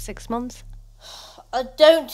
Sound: sighs

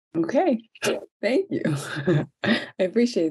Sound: laughs

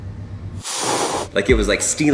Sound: cat hisses

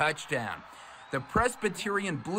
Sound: nats crowd

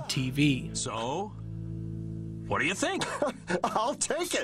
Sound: WebTV commercial, circa 1998, playing

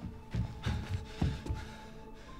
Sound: panting

